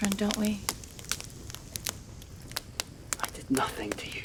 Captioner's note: fire crackling